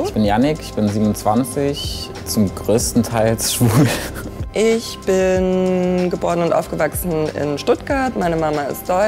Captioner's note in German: lacht